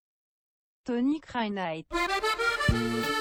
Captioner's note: French